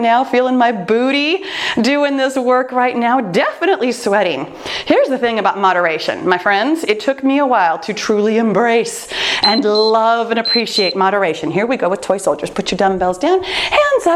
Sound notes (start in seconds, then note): 9.4 timer beeps